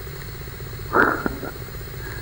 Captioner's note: chuckles